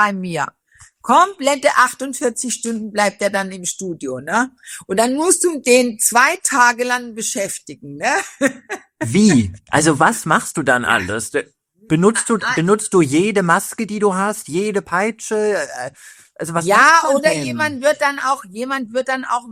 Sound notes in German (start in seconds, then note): 8.1 gelächter